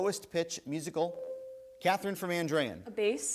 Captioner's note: buzzer rings